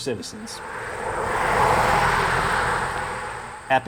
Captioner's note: traffic sounds near park entrance